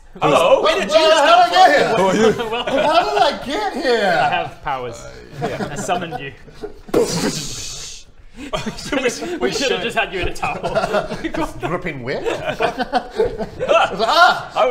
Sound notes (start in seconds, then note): 6.9 boof!; 7.0 kkdsshhhh!